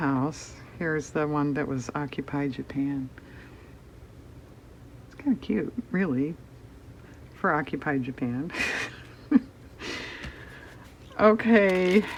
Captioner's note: laughs